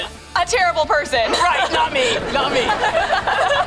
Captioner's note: laughing